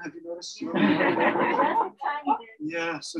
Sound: laughter

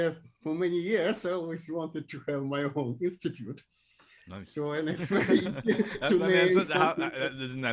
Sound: laughs

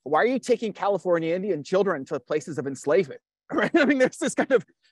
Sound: laughs

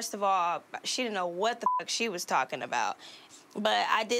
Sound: beep

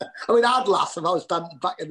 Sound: laughter

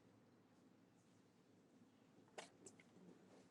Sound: none

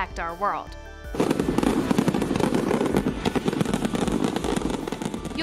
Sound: fireworks crackling

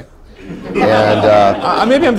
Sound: laughter

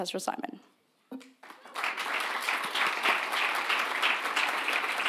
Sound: audience applauding

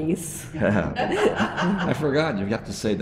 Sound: both laughing

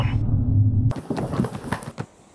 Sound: thumping

